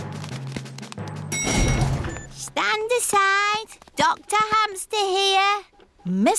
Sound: elevator dings

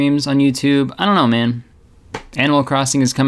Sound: hand slapping

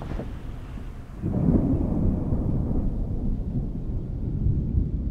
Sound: thunder storm

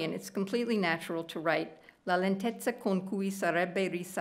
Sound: speaking italian

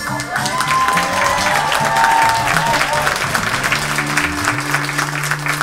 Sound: audience cheers and claps; funky music

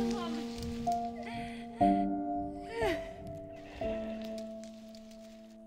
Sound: woman sobbing

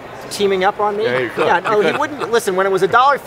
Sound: laughing

